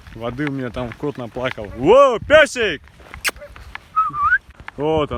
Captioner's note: whistles to dog